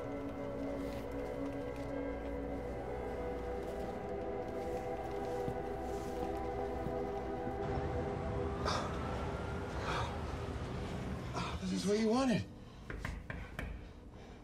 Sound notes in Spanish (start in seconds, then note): 8.1 Respirando profundamente; 12.9 Llaman a la puerta